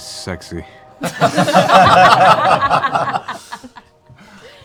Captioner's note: laughter